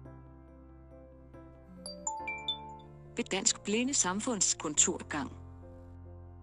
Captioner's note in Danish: Blip lyd